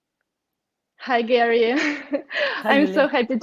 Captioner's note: laughs